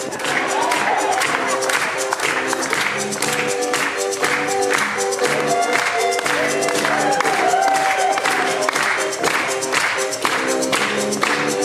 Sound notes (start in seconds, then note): 0.1 audience laughing; 6.0 audience cheering